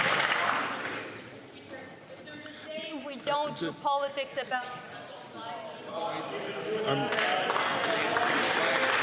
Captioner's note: some Applause